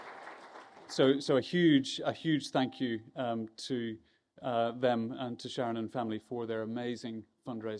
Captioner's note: applause